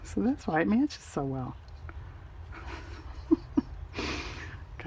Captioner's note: laughs